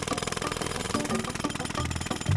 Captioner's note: jackhammer pounding